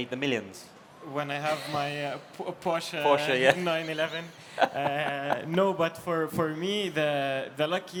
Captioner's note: laughs